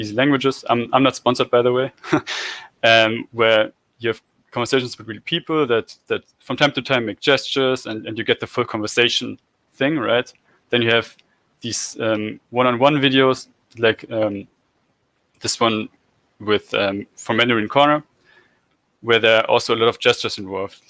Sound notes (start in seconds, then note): 2.0 laugh